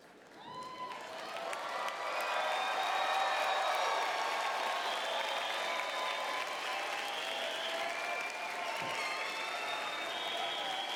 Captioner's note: applause